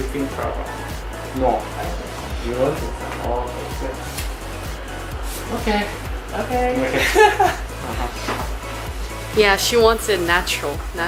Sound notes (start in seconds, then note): 6.9 nervous laugh